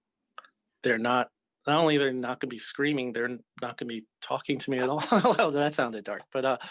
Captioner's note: laughs